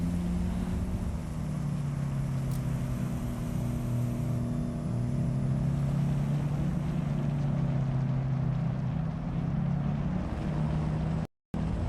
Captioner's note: helicopter whirring